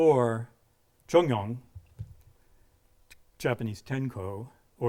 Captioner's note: speaking in a foreign language